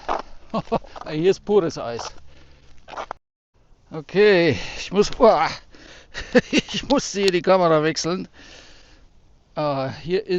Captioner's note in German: gelächter